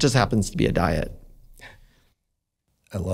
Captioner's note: chuckles